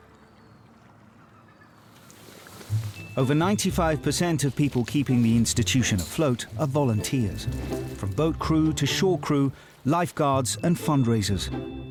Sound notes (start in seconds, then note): 0.0 birds chirping